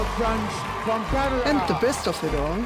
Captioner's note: crowd cheers and applauds